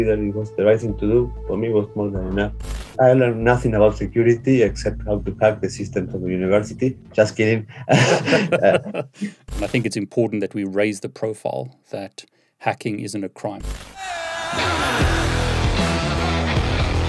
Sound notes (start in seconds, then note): 7.6 both laugh; 14.0 rock music